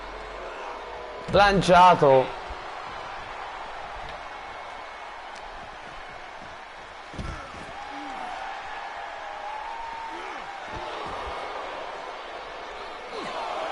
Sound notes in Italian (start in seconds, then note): 4.9 Applauso